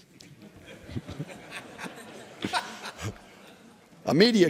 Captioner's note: laughter